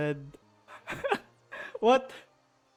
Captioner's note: giggles